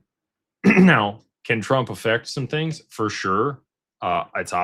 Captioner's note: clears throat